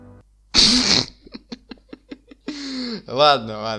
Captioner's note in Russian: Дикий смех